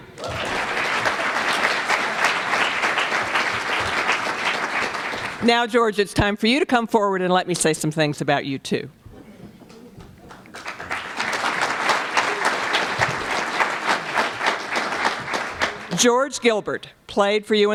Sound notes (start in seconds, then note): 0.0 applause; 10.2 applause